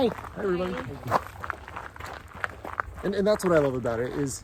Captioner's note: footsteps on gravel